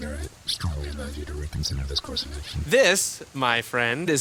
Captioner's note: quietly